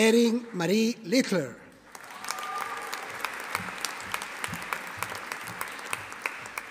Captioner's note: audience applauding